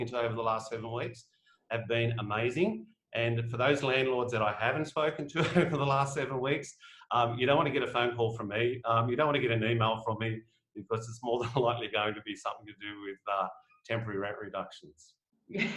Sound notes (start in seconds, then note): 5.6 laughs; 15.5 chuckles